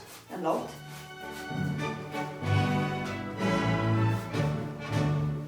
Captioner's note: laces shuffling